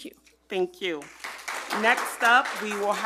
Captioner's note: group applauding